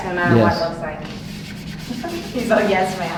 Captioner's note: laughing